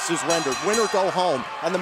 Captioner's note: bell ringing